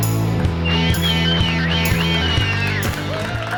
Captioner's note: cheering